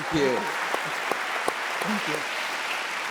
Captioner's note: audience applauding